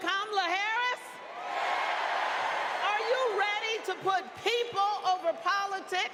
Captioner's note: applause; cheers and applause